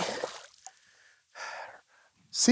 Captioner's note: sighs